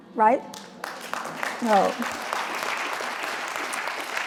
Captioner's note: applause